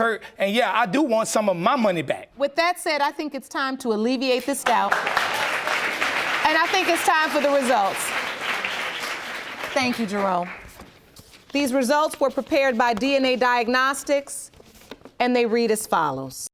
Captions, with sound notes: and yeah, I do want some of my money back. With that said, I think it's time to alleviate this doubt. (AUDIENCE APPLAUDING) And I think it's time for the results. Thank you, Jerome. These result were prepared by DNA Diagnostics and they read as follows...